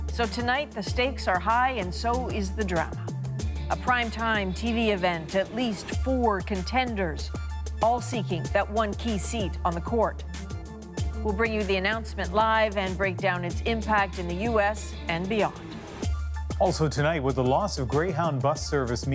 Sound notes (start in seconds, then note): none